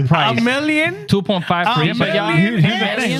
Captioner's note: speaking Spanish